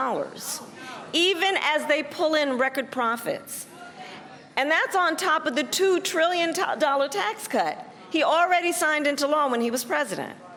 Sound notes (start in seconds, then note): none